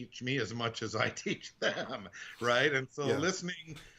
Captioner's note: laughing